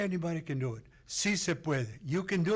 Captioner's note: foreign language